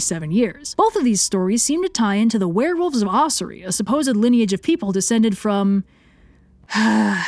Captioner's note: sigh